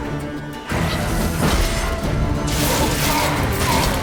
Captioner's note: Quen shield crackles; wraith groans